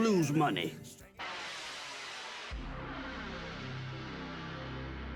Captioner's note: logo noise